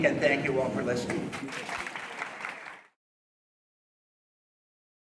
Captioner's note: audience applauding